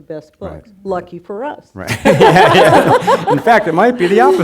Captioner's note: laughing